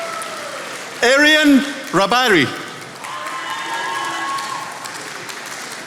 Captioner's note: attendees applauding